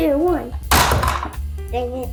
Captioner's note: bonk!